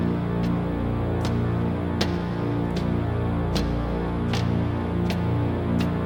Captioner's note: heavy footsteps